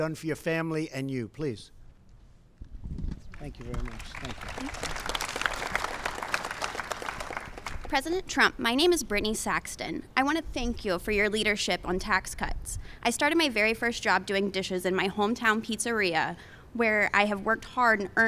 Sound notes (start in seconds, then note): 5.9 applause